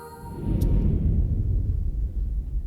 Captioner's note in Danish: musik falmer; whoosh